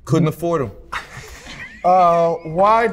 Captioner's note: laughing